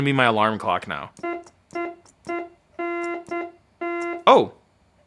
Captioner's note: horn honking